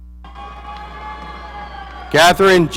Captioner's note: audience cheering